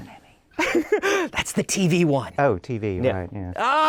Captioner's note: laughs